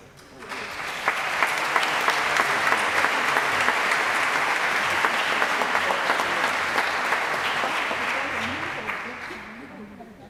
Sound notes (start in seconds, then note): 0.2 applause